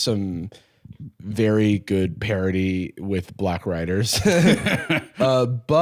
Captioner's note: both laugh